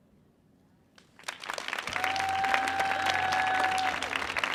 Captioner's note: audience cheering